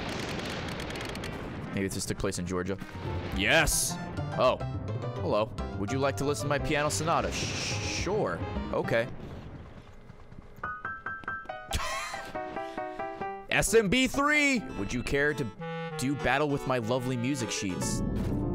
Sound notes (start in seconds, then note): 11.7 laughs